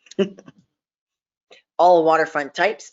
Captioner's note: chuckling